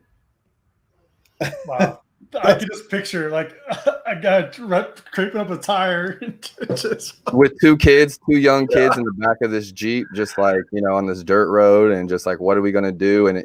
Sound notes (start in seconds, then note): 2.4 laughing; 6.0 laughing